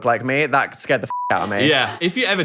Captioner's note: beep